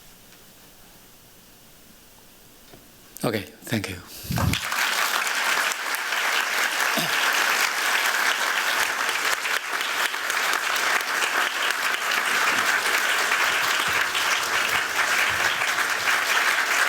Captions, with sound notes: OK, thank you. [APPLAUSE]